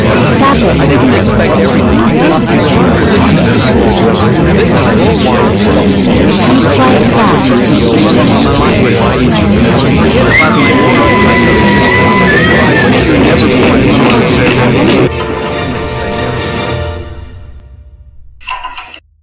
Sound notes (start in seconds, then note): 10.3 Ms. Linda Screaming